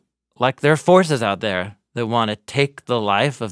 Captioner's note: none